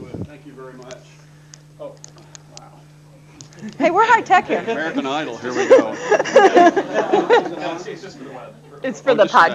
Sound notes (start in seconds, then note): 5.3 laughter